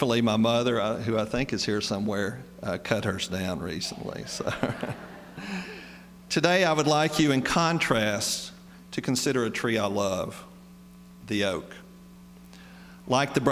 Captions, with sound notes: Thankfully my mother, who I think is here somewhere, cut hers down recently, so. [laughs] Today I would like you, in contrast, to consider a tree I love, the oak.